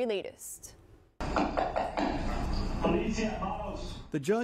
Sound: police knock on door

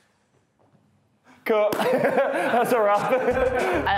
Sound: laughs

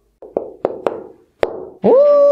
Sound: figure thumping

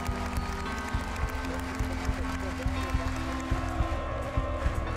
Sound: applause

